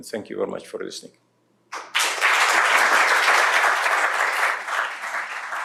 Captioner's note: applause